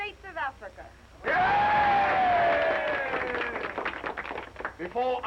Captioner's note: crowd cheering